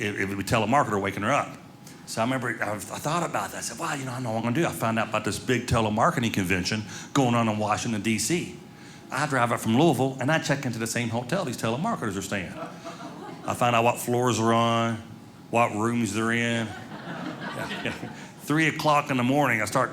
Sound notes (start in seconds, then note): 16.6 audience laughing